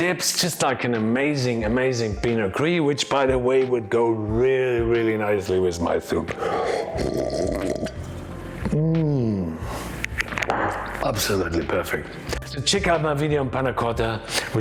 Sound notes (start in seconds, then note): 6.4 slurping sound